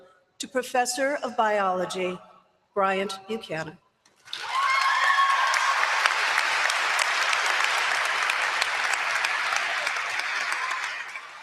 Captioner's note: applause